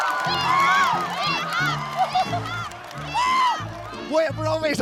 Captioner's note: haha